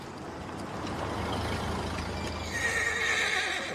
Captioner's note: car engine rumbles; horse whinnies